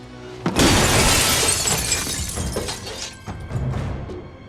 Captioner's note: glass breaking